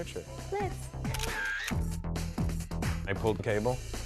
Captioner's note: shutter clicks